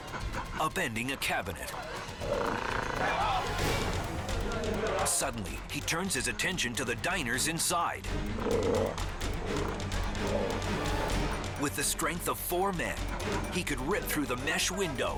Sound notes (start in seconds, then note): 1.5 orangutan snarling; 3.6 dramatic music intensifies; 8.1 orangutan snarling